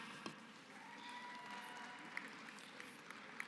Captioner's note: applause